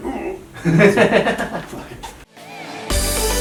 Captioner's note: laughing; imitates another noise